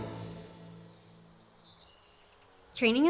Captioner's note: birds chirping